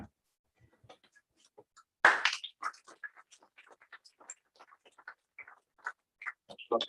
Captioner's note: applause